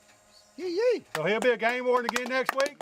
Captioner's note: clapping